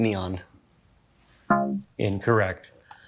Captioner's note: womp chimes